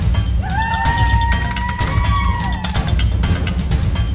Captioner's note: cheering